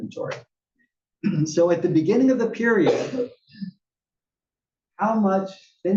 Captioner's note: cough